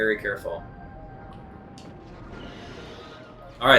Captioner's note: instrumental music; gaming sounds